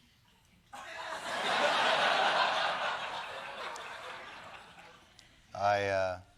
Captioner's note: laughter